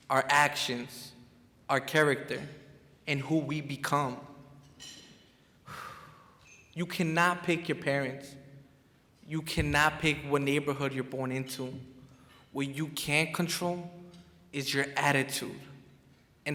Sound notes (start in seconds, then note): 5.8 sighs